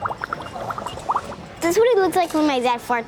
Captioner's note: bubbles bubbling